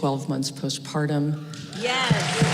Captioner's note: applause